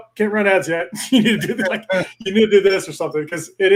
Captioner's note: laughs